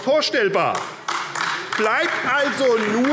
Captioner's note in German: Beifall AfD